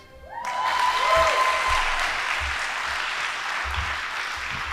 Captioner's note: audience applauding